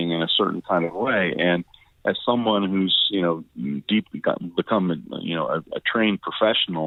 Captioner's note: stammering